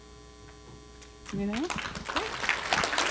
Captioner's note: applause